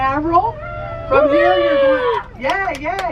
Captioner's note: passengers cheer